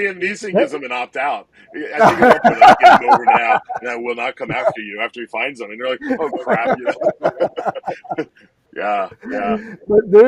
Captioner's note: laughter